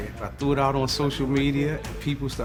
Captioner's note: none